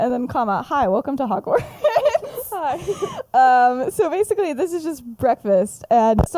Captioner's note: laughs; laughs